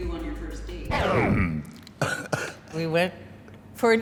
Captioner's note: record scratches; laughs